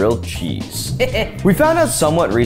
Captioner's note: chuckles